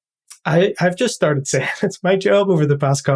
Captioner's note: laugh